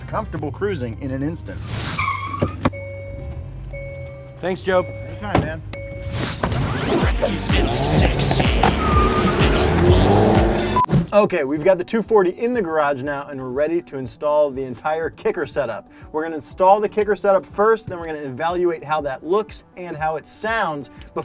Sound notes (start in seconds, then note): 1.6 tires squealing; 6.4 upbeat music